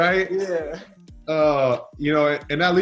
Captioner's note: laughs